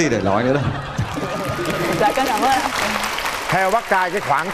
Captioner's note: cheering